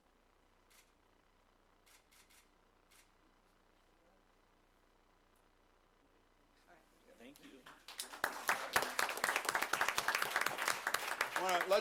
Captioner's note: applause